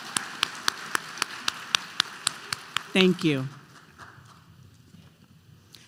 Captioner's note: applause